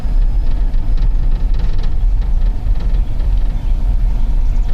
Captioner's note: engine revving